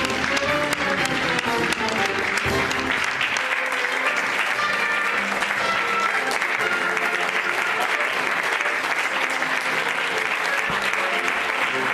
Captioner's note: applause